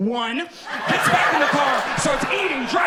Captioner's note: audience laughing